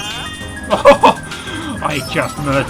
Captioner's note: surprised laughter